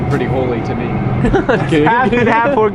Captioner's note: chuckles